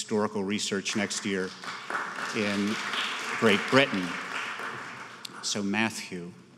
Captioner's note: applauding